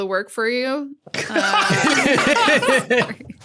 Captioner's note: group laughing